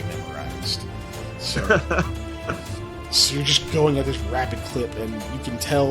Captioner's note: laughs